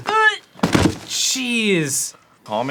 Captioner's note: heavy thud to assert dominance